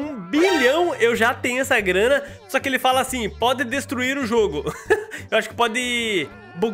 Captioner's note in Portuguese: risos